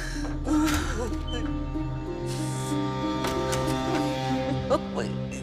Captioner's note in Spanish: Puerta se abre y se cierra